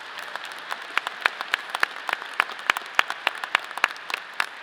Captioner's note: audience applause